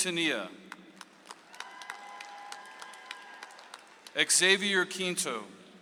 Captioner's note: audience applauds